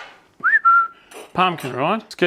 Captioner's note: whistles